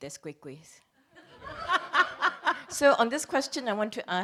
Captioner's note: laughs